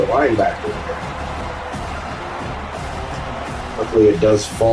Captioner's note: crowd Noises